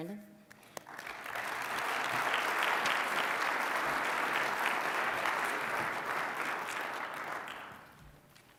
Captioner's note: applause